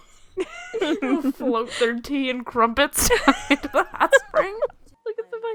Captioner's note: both laughing; laughing